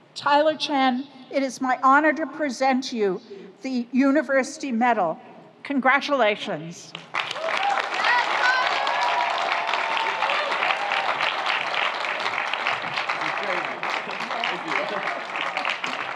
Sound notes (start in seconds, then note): 7.1 audience applauds; 7.2 audience cheers